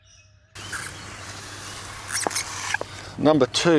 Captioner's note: water gushing